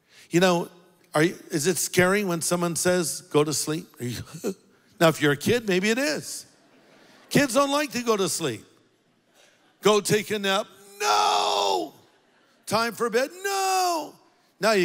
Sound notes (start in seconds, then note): 4.5 gasps; 6.4 congregation laughs